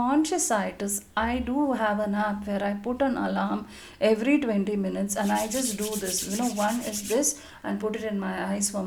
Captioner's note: rubbing palms together